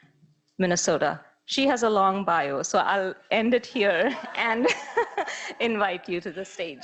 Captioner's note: laughing